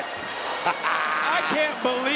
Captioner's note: laughs